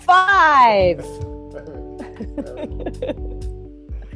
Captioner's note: both laugh